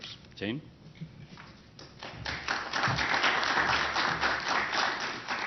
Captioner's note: applause